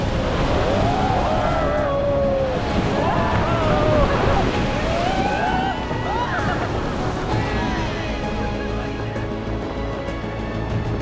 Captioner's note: crowd gasps and cheers